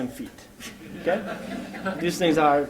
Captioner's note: laughter